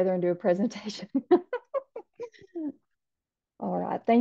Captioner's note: laughs